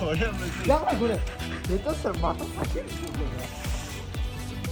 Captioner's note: laughs